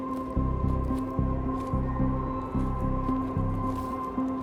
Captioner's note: wind blowing